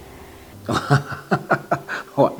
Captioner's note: laughs